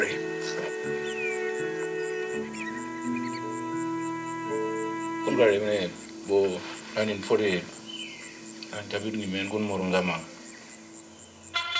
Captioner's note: speaking in language